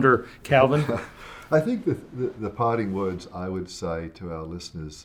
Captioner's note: chuckles